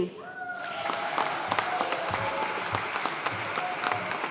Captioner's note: audience cheering and applauding